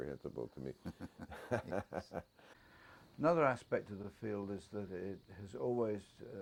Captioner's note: laugh